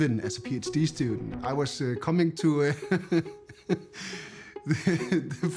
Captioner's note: laughs